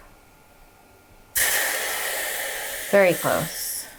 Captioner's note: water sizzling